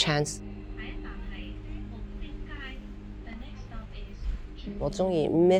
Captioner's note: tram announcement